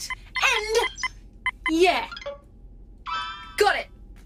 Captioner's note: Solaris’ work pad bleeps in celebration